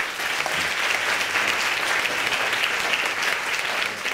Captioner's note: audience applauding